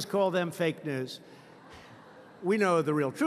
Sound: laughter

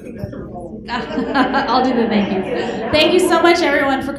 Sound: laughter

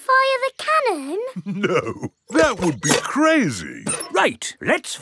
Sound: chuckling

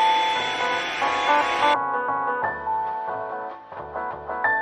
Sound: blow dryer blowing; relaxing piano music

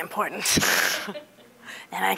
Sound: laughing

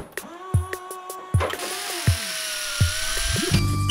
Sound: hammering; drilling; motor whirring

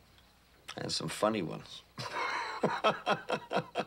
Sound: chuckles

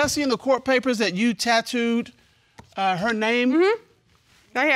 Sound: stuttering

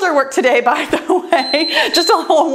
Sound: timer beeps

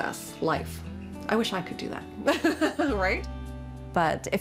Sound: laughs

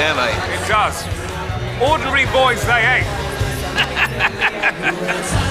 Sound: chuckles

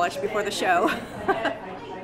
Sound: laughter

